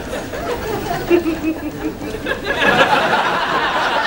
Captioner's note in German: Frau lacht